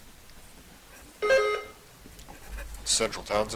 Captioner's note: buzzer chiming